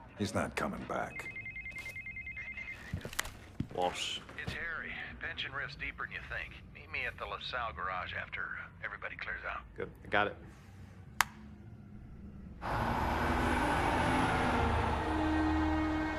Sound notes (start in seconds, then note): 0.9 phone ringing